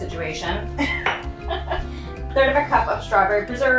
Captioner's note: laughs